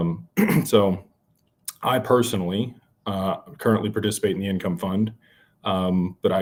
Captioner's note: clears throat